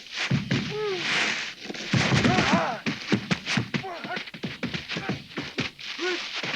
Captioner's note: hooves thudding; Pedro groaning